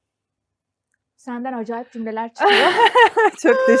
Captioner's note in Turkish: kahkaha